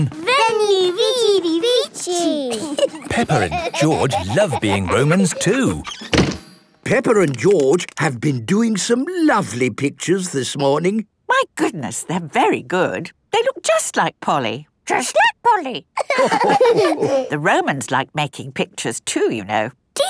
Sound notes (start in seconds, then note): 0.8 laughing; 16.0 all laughing